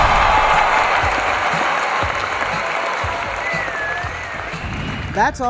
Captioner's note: audience cheering